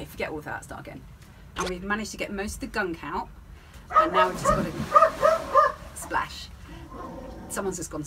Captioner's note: splash; dog barking